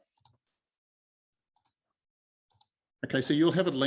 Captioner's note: mouse clicking